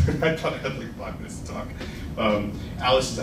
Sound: laughs

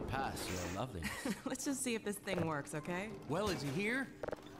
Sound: giggles

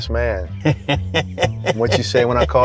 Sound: laughs

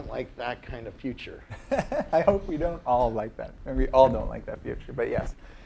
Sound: laugh

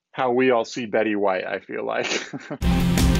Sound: chuckles; rock intro

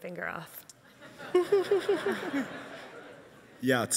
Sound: laughs

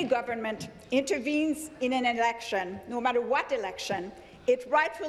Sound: speaking in French

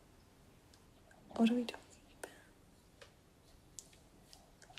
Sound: whispered

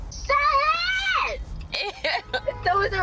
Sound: laughs

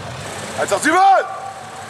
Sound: schreit

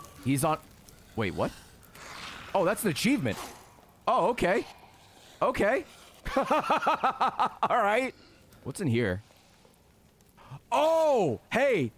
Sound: laughs

